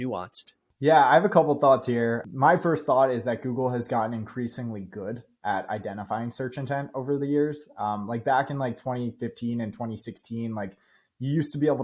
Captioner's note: speaking